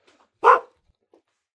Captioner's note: barks